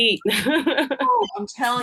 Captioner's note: laughs